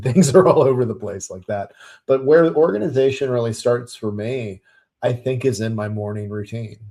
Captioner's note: chuckles